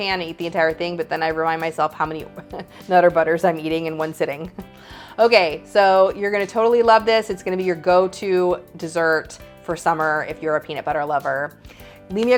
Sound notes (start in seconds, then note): 2.3 chuckles